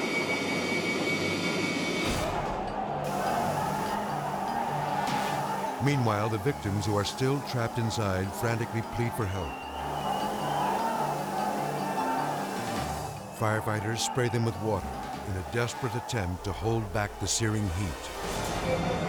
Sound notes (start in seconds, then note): 2.2 residents screaming